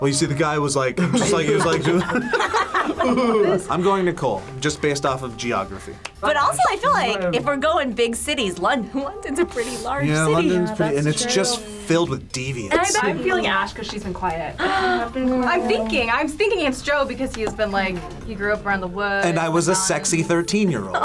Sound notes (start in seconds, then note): 0.9 group laughs; 14.6 gasps